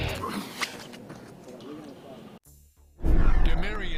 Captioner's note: intense guitar music; grunting